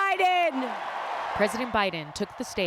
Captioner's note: cheering